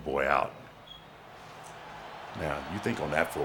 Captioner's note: crowd cheering